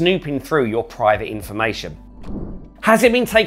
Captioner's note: air swooshing